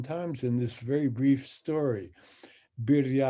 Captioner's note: speaks in Hebrew